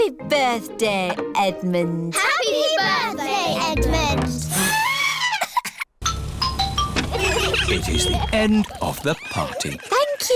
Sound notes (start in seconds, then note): 5.1 trumpets; 6.0 horns honking